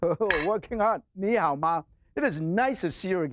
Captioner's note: speaking foreign language